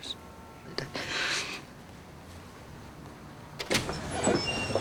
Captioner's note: sniffs